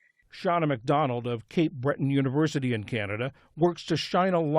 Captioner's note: voice-over